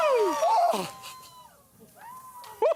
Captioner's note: cheers and applause